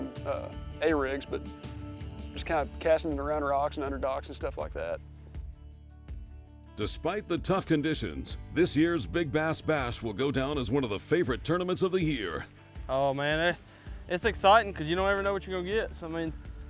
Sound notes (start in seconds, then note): 5.4 voiceover